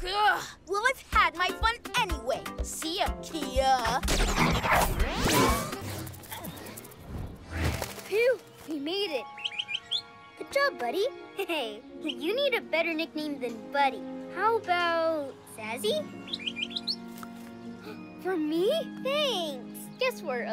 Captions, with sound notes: Ugh! We'll I've had my fun anyway. Phew, we made it. - (Chirps) - Good job, buddy! Hey, you need a better nickname than buddy. How about Zazi? (Chirps) (Gasps) For me? Thanks!